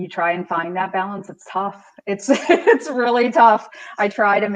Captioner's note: laughs